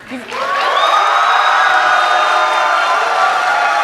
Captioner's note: cheers and applause